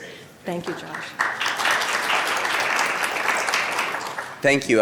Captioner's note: applause